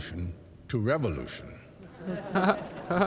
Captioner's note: sarcastic laughter over this terrible joke